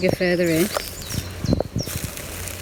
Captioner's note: birds chirping; leaves rustling